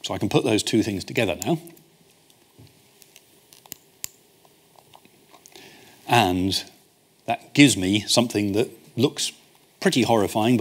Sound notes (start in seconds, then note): 3.5 clicks